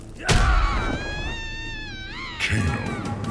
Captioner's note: attacks slamming; fighters grunting; Wonder Woman screaming